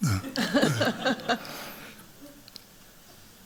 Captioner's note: laughter